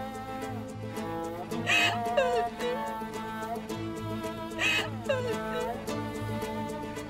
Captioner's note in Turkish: Ağlama sesi; Müzik - Hareketli